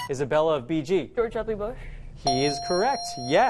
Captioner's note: correct answer chime